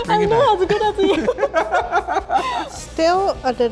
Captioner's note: laugh